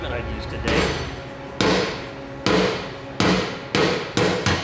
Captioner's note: hammer banging